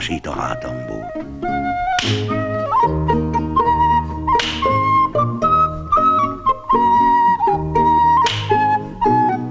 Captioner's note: sound of a whip